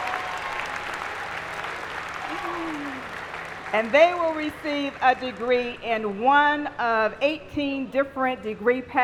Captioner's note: applause